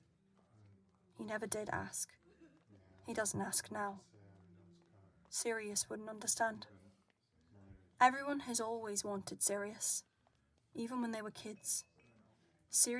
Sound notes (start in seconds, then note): none